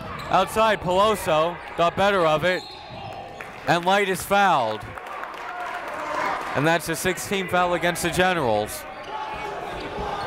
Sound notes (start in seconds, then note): 2.6 whistle